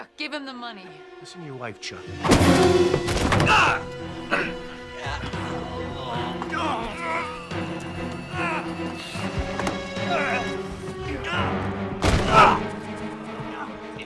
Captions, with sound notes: - Chuck, give him the money. - Listen to your wife, Chuck. (fist thuds) (Art groans)